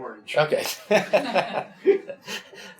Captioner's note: laughs